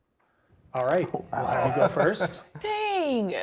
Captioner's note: laughing